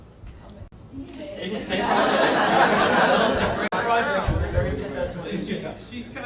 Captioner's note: audience laughing